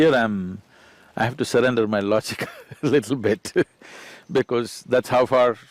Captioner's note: laughs